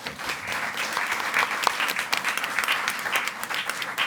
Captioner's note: audience applauding